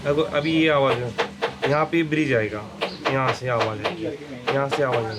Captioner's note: speaking foreign language